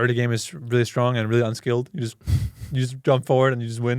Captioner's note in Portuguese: risos